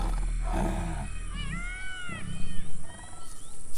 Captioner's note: tiger growls